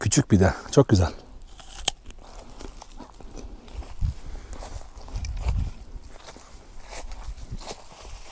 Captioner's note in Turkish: Isırık sesi